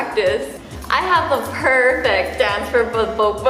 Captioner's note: stutters